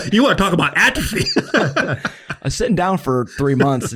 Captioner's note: everyone laughs